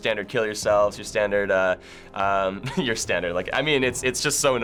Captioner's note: chuckles